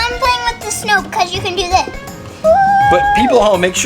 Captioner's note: squeals